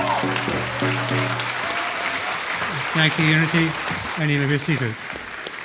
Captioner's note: applause